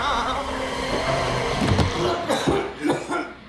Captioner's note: re-Enactor screaming; thumping; Jon Re-Enactor coughing